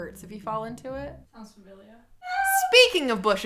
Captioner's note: screams